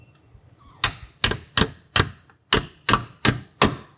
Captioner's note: hammer banging